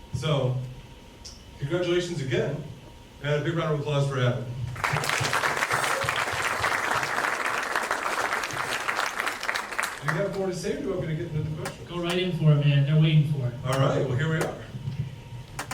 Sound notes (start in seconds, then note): 4.7 audience cheers and claps